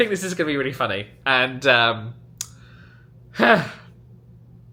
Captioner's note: sighs